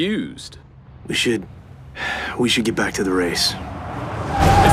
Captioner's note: sigh